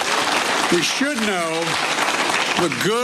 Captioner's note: applause